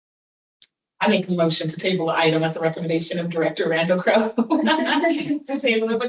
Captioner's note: laughter